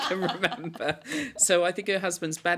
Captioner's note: laughter